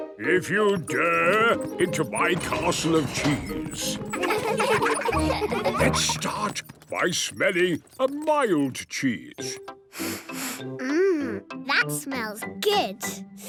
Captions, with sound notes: if you dare, into my Castle of Cheese! Let's start by smelling a mild cheese. - (sniffs) Mmm... That smells good.